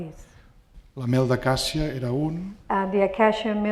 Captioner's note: speaking spanish